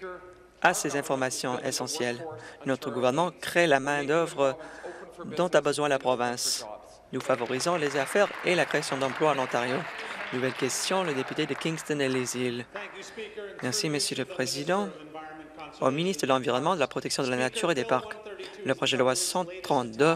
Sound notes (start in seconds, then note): 11.1 applause